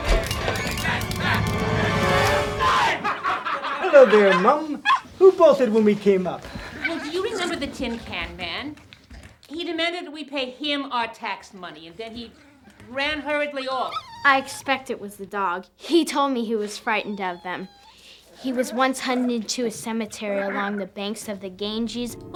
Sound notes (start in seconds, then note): 2.8 laughter; 4.8 dog barking; 14.9 dog whining